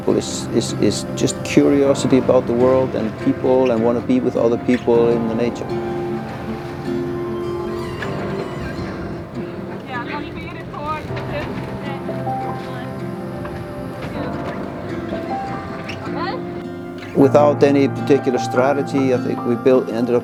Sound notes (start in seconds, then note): 6.3 calm music; 10.1 people chatting indistinctly